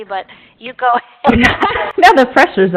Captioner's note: laughter